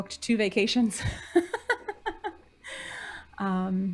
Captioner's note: laughing